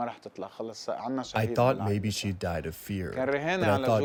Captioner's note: through translator